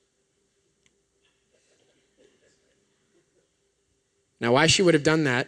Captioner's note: laughter